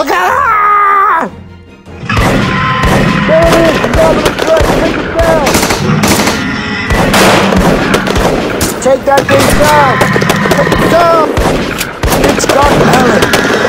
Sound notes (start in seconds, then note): 1.6 guns firing